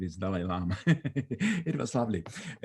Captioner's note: laughing